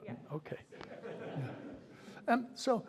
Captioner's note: laughter